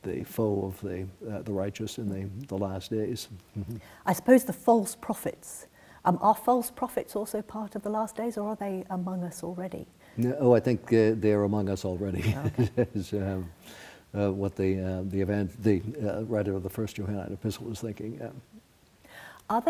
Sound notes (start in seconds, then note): 12.2 laughs